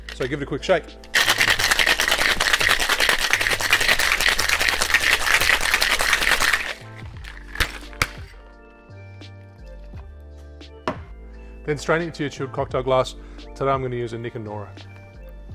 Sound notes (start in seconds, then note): 1.0 ice rattling; 7.8 smacking